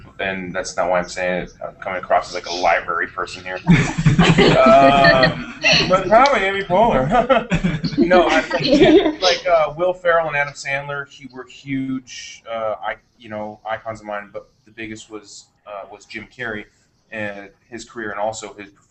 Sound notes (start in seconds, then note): 7.5 laughter